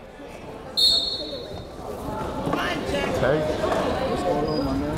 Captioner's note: whistle blowing